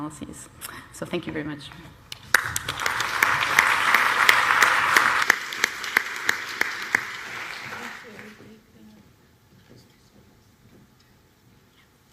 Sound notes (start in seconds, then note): 2.1 applause